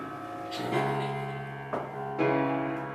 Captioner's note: giggling